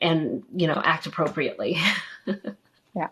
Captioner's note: laughter